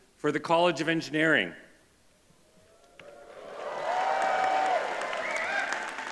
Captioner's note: cheers and whistling. applause